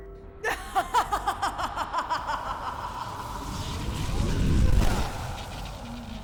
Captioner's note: maia laughs